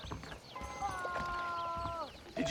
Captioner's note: scream